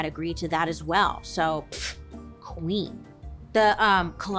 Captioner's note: scoffs